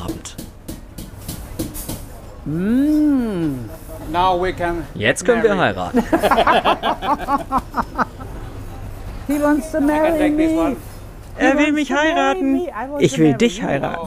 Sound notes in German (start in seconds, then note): 5.9 Beide lachen herzlich